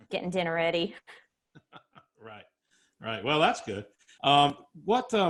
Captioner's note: laughs